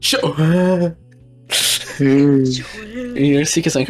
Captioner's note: whales calling back